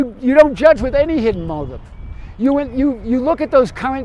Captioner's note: birds chirp